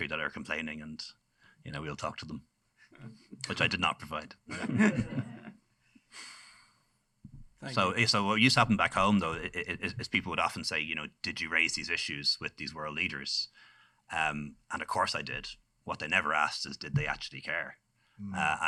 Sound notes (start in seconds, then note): 4.4 laughter